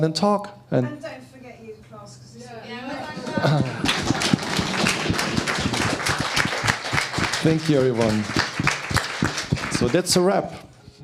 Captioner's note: applause